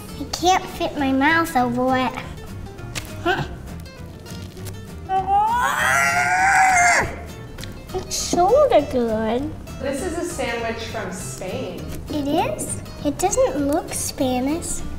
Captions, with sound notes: I can't fit my mouth over it. - (squeals) - It's sorta good. - It is? It doesn't look Spanish.